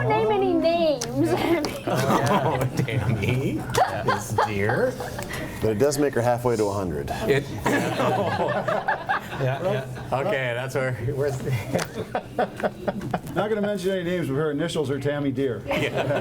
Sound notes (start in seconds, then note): 1.4 chuckles; 7.2 board members laugh; 15.7 board members laugh